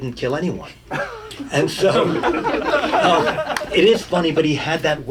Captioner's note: audience laughing